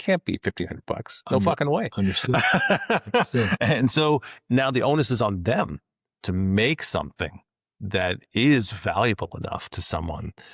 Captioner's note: laughs